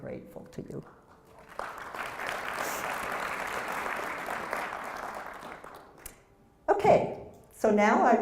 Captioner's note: applause